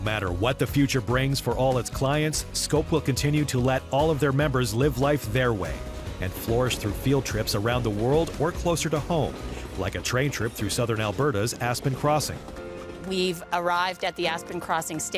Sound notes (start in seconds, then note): none